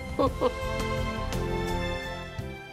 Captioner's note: chuckling